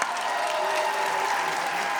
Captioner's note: applause